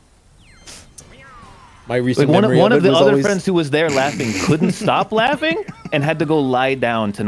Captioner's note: laughs